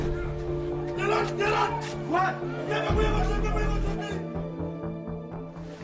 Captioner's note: yelling in foreign language